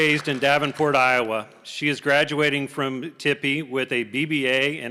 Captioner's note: applause